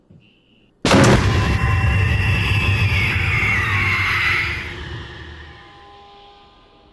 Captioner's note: jump scare music; Jessie screaming; car horn honks